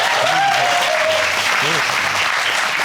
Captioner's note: audience cheering